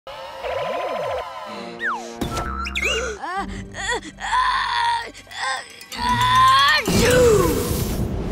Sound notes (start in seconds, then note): 2.8 sneezing; 2.9 gasping